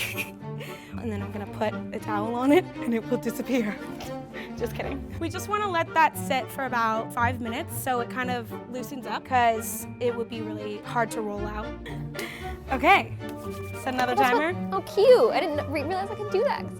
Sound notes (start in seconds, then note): 4.8 laughs; 11.8 laughs